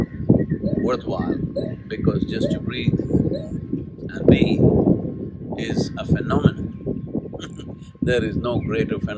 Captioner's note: laughs